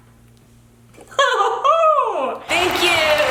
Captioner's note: laughing